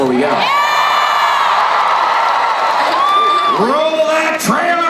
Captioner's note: crowd cheering